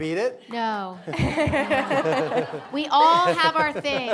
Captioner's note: audience laughing